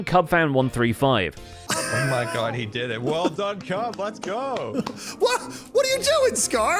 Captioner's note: claps